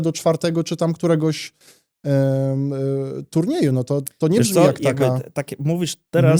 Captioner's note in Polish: parsknięcie